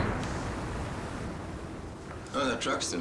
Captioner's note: waves crash loudly